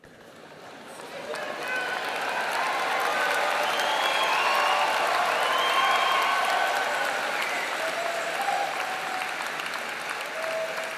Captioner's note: applause